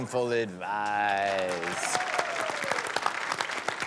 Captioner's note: applause